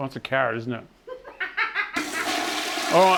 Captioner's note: laughing